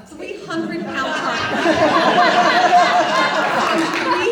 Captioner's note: audience laughs